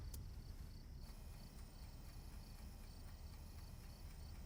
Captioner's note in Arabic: تدق الساعة